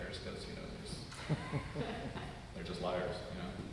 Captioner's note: audience laugh